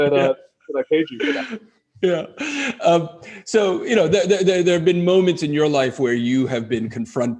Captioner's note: laughs